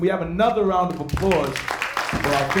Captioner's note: applause